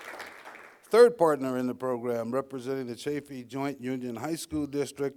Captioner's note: applause